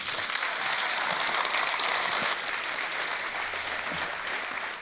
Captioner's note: audience applause